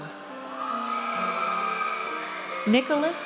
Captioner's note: audience cheers